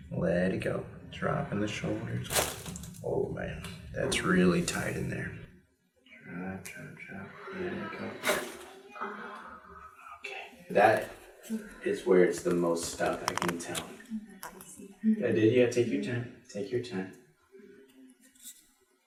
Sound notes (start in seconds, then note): 2.2 back cracks; 8.2 back cracks loudly